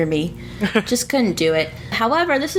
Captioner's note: laughs